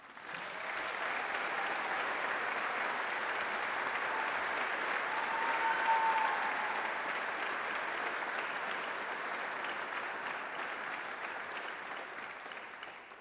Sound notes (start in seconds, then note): 0.1 applause; 5.9 applause, cheering; 8.1 applause